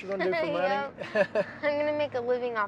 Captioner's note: laughing